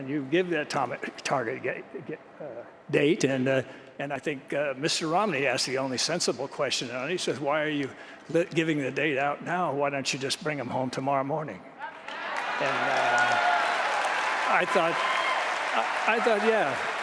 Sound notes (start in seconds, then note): 12.1 applause